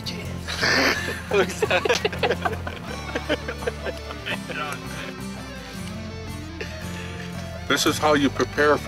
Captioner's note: lalaugughthterer